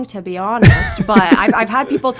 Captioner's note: laughs